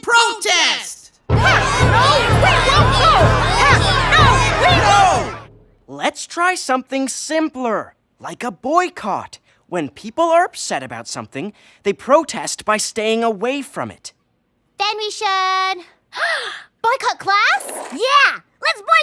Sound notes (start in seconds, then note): 14.9 gasps